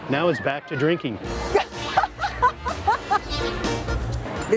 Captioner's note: laughs